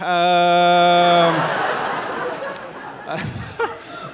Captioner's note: audience laughing; laughing